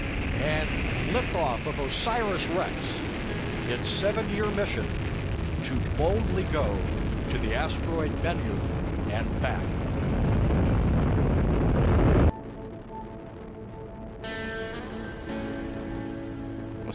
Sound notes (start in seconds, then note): 9.6 rocket launching; 14.1 calm instrumental music